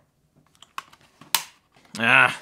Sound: hard drive snapping

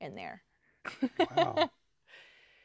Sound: laughs

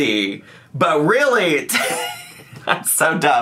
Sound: laughs

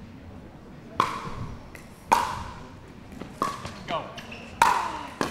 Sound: ball bouncing

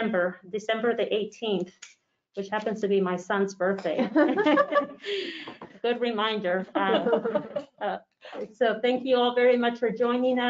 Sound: laughs

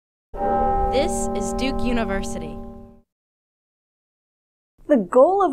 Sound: bell tolls

